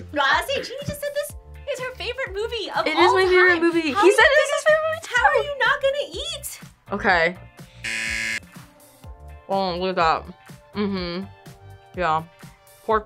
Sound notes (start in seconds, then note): 7.8 buzzer